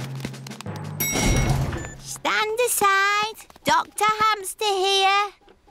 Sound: elevator dings

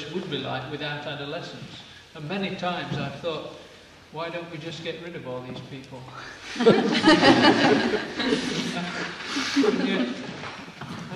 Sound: laughter

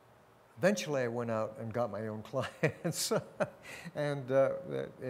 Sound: laughs

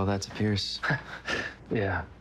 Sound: chuckles

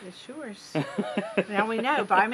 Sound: laughing

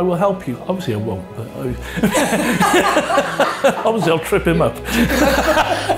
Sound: laughing

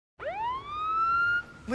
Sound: ambulance siren

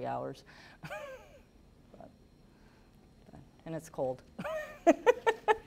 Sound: laughing

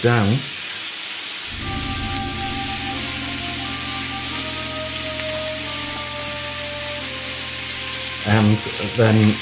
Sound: SIZZLIN and MUSIC

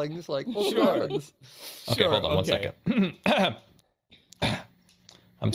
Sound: loudly clears throat

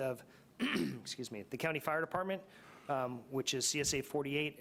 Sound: coughs

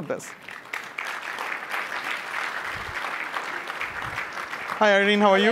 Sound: applause

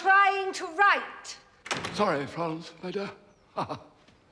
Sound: laughs

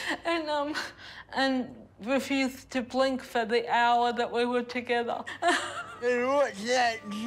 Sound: chuckles

